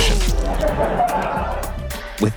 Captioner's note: laughing